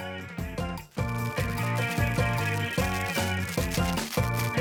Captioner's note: velcro unfastening